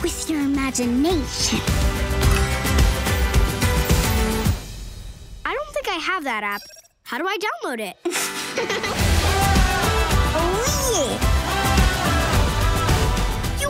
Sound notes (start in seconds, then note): 8.1 giggles